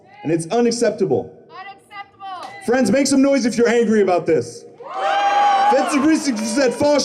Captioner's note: cheers!